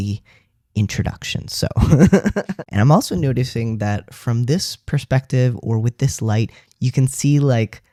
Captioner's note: laugh